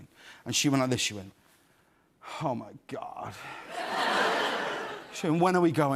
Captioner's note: laughter